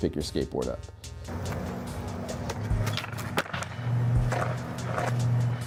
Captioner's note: skateboard rumbling